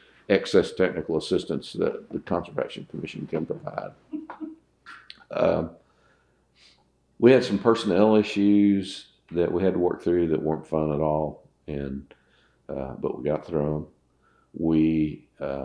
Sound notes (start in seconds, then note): 4.1 laughter